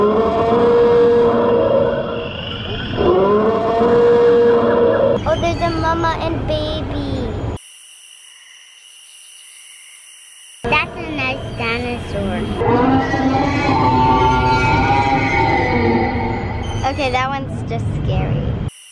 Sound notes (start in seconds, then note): 0.0 roaring continues; 7.6 frogs and crickets; 12.5 dino roar